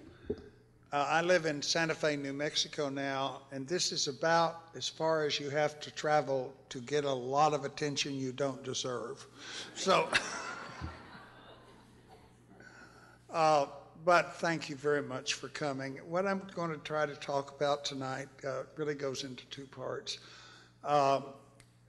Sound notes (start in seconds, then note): 12.3 laughter